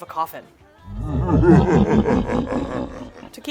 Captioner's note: evil laugh